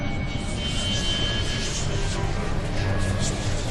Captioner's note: whispering